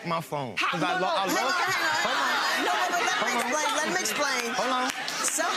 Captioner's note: shouting